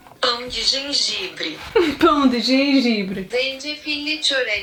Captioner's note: Google translate voice speaks